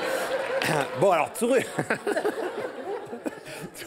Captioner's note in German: Gelächter